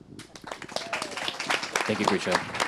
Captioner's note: audience applauds